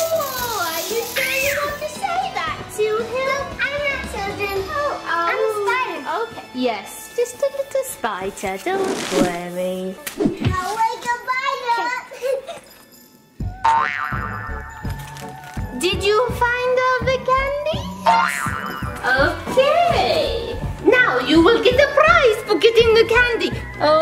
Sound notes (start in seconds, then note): 8.6 whooshing; 18.0 boings